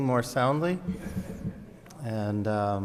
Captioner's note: audience laughs